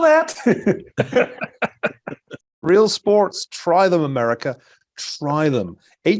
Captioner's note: laugh